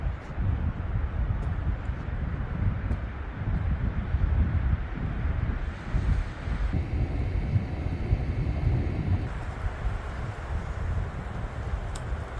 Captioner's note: wind howling